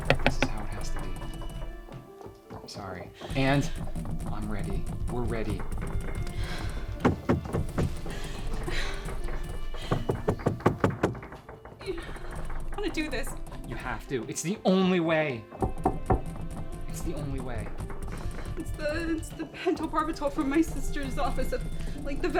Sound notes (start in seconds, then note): 6.2 Marsha sobs; 6.2 door banging